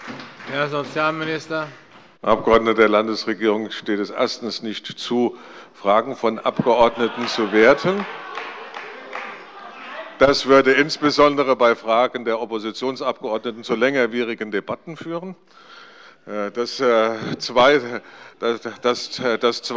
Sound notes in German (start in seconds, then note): 0.0 Heiterkeit und Beifall bei der SPD und bei Abgeordneten der LINKEN; 6.6 Beifall bei Abgeordneten der CDU - Lachen bei der SPD